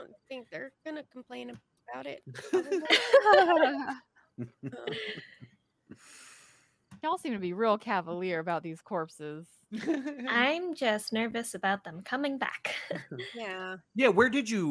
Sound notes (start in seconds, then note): 2.3 all laughing; 9.8 laughing